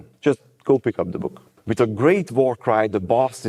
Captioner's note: deadpan